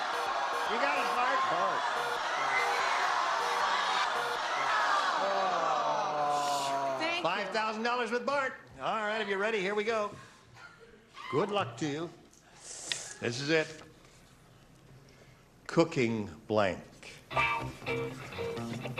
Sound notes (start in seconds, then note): 3.9 cheering; 4.9 groans